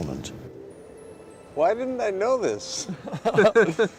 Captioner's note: both laugh